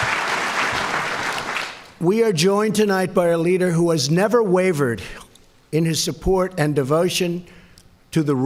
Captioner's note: applause